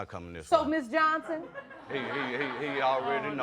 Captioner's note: audience laughing